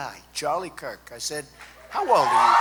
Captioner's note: applause